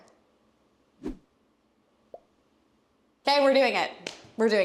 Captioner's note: emoji popping; air whooshing